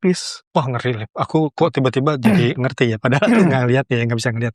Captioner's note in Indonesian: berdehem